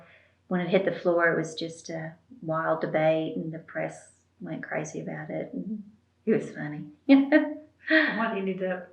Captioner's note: laughs